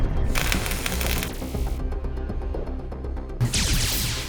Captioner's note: laser crackles; laser zapping